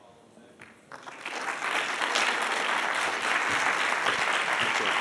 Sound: audience applauds

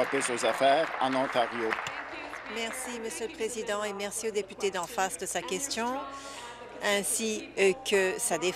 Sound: applause

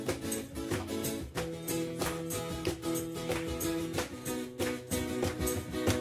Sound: guitar strumming and bells jingling; audience clapping in-time

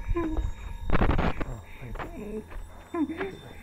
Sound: Static

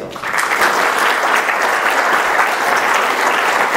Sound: applause

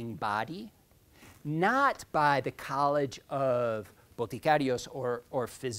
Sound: speaking in foreign language

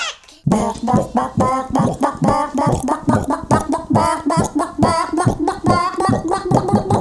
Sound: chickens clucking

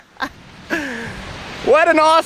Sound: laughing

